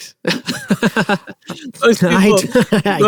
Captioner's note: laughing